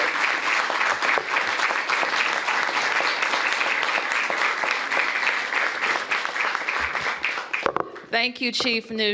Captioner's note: applause